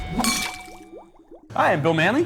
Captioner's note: glasses clinking